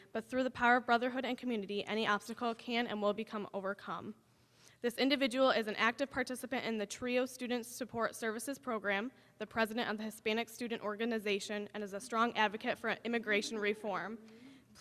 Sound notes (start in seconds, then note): none